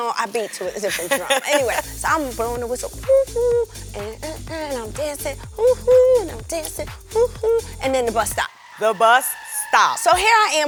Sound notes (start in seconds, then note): 3.0 imitates whistle; 6.1 imitates whistle